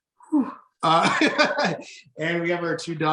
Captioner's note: laughing